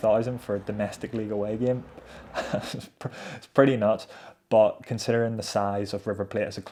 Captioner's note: laughs